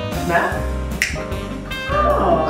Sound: snap

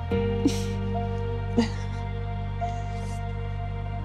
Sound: both laughing

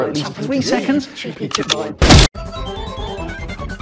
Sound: reloading and fire

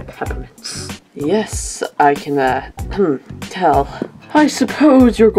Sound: cough

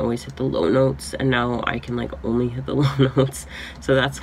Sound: laughs

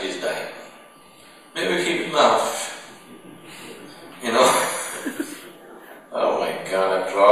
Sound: laughter

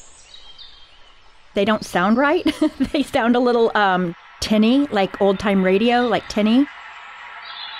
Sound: bird sounds; bird sounds changed

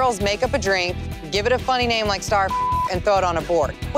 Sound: beeping

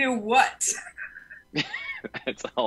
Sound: laugh

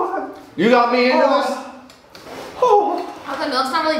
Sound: wails

